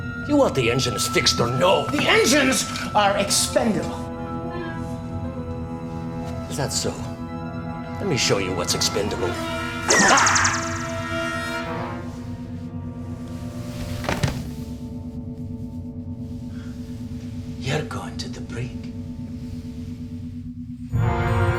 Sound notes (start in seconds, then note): 9.8 phaser fire; 17.4 imitating scott